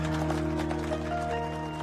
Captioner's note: applause